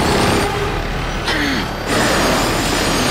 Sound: grunting

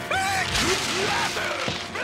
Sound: smashing

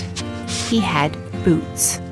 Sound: sniff

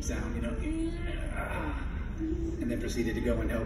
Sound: mimics pain sounds

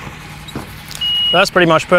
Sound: loud banging; beep

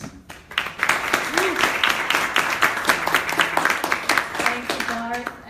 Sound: applause

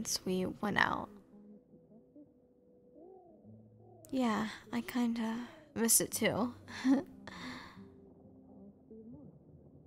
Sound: nervous laughter

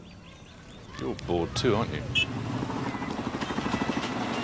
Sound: horn honking

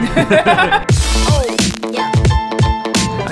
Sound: laughter; piano music

